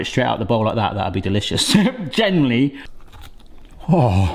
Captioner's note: laughing